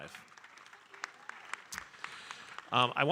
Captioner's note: audience applauding